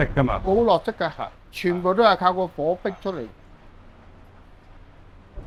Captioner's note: chef speaking foreign language